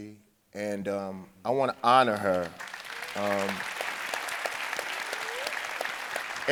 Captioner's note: audience applauding